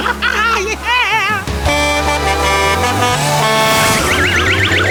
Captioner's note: truck horn honking